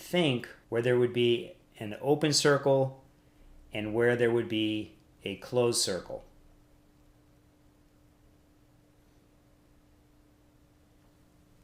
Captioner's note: silence